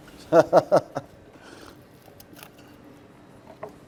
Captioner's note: laughs